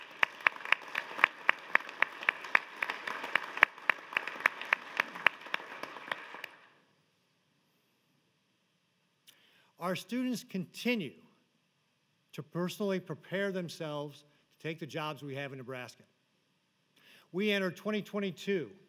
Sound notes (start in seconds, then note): 3.8 applause